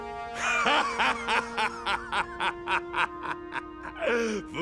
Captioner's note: laughing